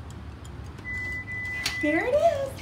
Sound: three beeps and a click

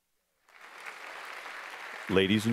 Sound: applause

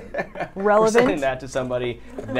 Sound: laughs

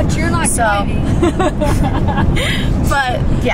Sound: laughing

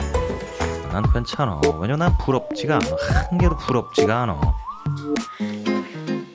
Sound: shivering

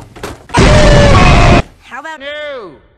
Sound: explosion

